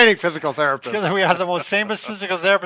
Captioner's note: laughs